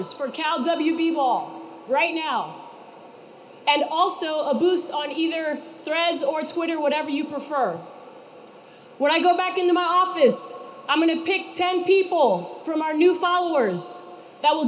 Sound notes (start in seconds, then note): none